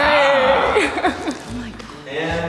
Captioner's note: laughs